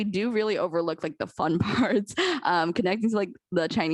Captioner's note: laughter